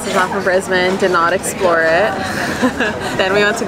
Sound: laughing

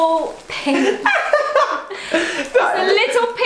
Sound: laughs

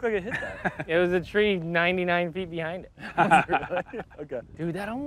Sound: chuckles; chuckling

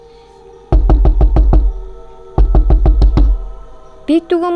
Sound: knock on the door

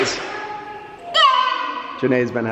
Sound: exclaims

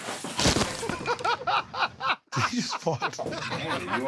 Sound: laughs

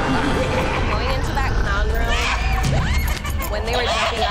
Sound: evil laughing; creepy music; shrieking

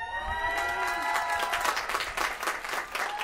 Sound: applause

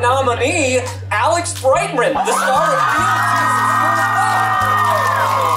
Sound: crowd cheering

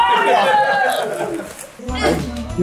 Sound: laughs

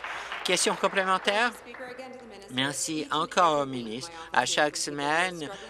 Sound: applause

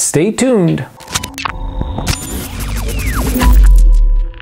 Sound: TV tuning static

